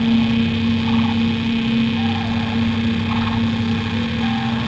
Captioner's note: static sounds